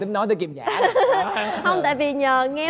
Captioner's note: laughing